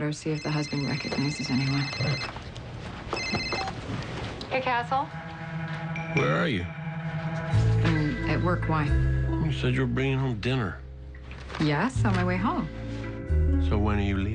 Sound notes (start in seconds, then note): 0.2 cell phone rings; 3.1 rings and beeps